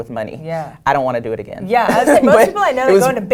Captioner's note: laugh